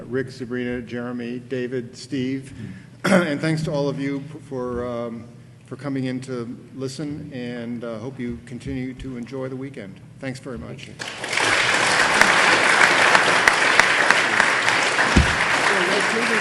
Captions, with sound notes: Rick, Sabrina, Jeremy, David, Steve. And thanks to all of you for coming in to listen and hope you continue to enjoy the weekend. Thanks very much. - Thank you. (audience applauding)